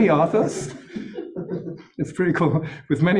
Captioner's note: laughter